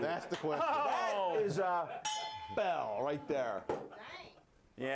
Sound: bell Rings

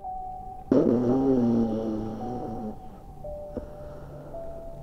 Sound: snoring

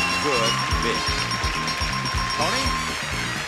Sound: bell dings

